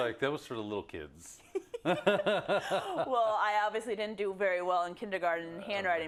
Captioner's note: laugh